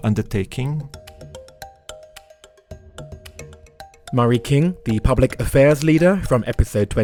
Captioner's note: voiceover